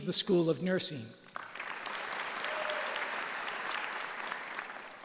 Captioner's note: applause